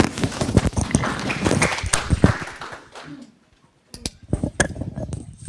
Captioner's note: audience applauds